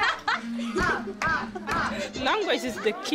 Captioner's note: people laughing